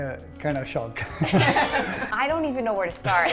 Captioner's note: laughing